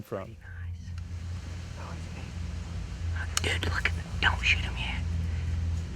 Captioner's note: whispering